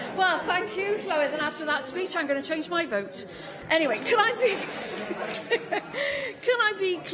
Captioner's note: laughter